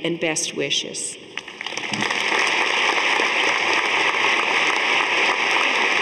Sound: audience applauding

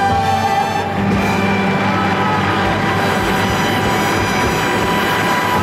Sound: audience cheering

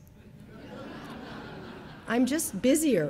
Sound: audience laughing

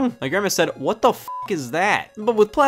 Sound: beep

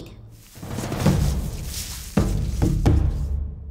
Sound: tumbleweed rustles

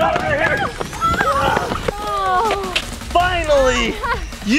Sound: and Mom squealing; and Mom groaning

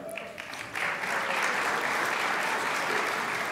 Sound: crowd applauds

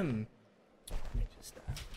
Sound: papers rustling

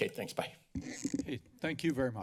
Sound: mic noise

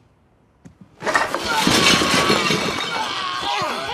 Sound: heave/grunt/scream

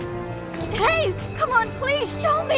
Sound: none

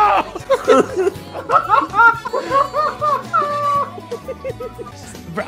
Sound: laughter

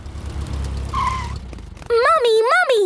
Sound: tires screeching

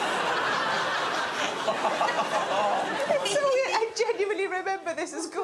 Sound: laughter

